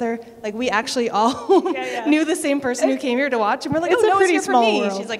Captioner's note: laughter